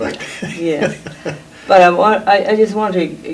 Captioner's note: laughs